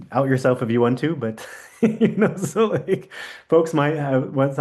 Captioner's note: chuckles